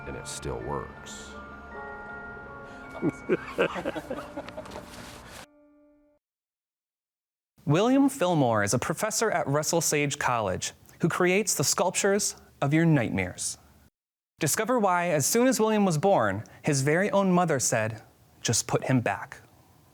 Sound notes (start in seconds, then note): 2.9 laughing